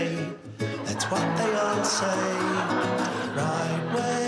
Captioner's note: crowd laughing